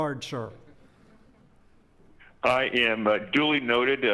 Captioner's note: laughing